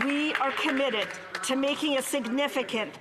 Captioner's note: applause